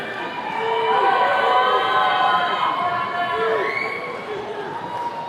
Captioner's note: attendees cheering